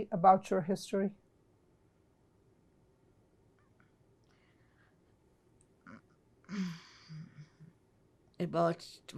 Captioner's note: pauses 6 seconds